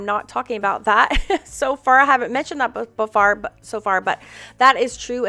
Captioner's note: laughs